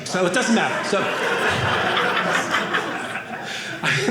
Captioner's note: audience laughing